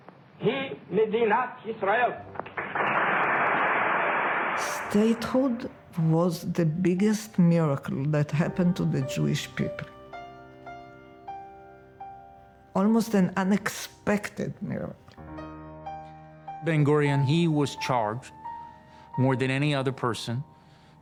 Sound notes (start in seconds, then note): 2.4 audience applauding; 10.1 gentle music